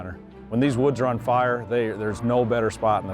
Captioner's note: none